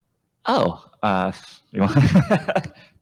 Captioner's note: laughs